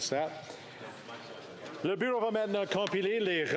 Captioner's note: speaking FRENCH